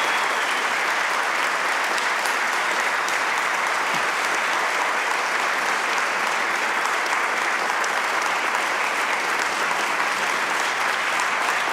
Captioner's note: applause